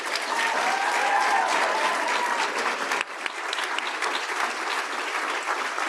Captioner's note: audience applauding and cheering